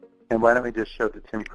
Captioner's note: voiceover